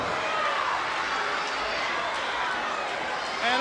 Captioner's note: crowd cheering